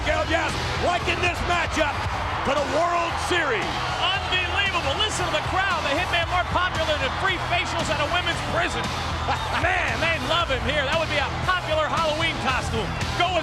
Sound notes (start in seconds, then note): 9.2 Vince chuckling